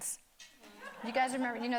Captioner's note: audience laughing